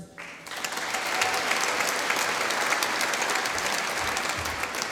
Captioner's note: applause